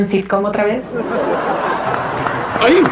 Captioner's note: risas